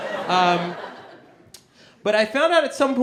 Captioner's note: audience laughing